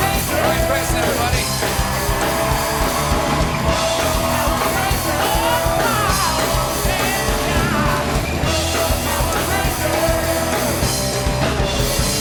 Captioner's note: cheers and applause